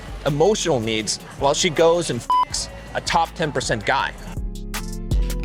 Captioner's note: beep